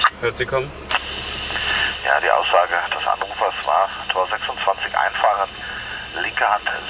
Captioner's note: radio